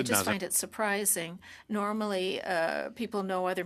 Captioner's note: speaking French